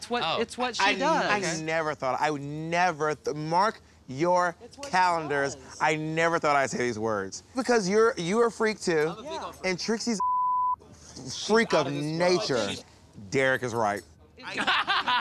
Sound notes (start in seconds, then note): 10.2 beep